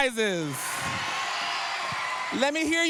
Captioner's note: cheering